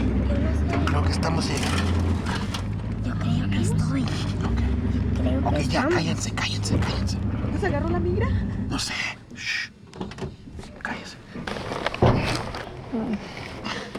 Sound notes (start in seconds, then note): 9.5 vehicle door opens, closes